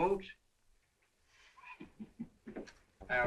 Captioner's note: dan chuckles